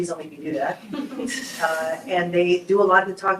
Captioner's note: group laughs